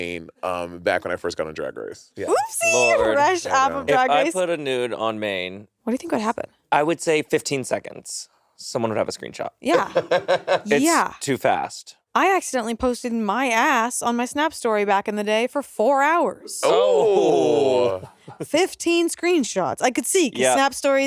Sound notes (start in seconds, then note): 9.7 Monét laughing